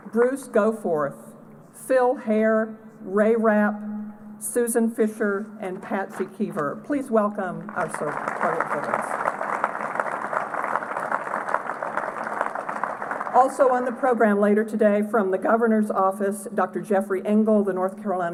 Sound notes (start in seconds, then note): 9.4 applause